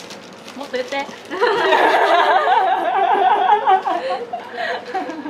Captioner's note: laughs